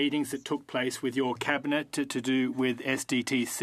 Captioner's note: speaking French